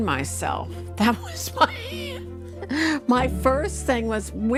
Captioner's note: laughing